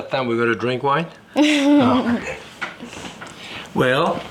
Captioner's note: chuckling